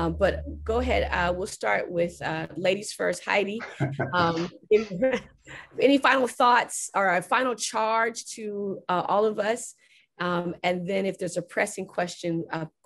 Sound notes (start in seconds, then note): 3.6 laughs